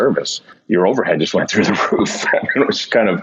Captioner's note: laughing